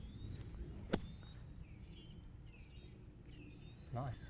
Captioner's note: golf club thwacking